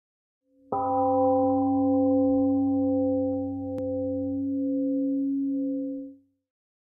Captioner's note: temple gong rings and fades